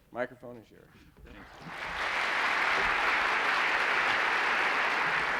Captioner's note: applause